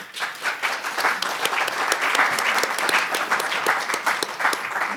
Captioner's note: audience applauding